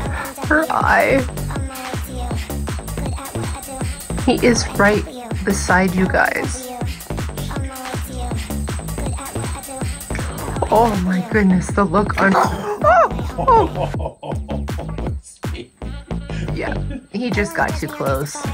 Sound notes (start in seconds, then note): 11.8 laughing; 12.3 growl